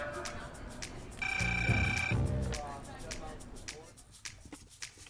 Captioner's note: phone rings